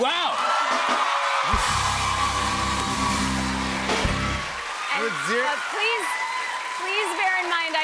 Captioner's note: cheers and applause